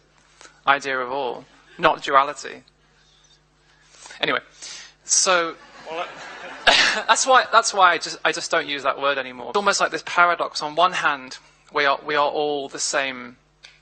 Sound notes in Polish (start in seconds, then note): 5.6 śmiech